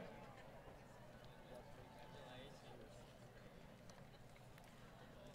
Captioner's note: crowd Cheering